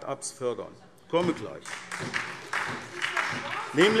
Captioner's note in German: Beifall